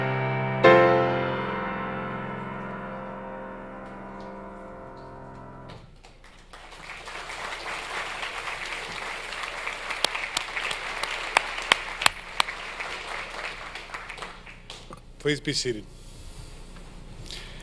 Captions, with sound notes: (audience applauds) - Please be seated.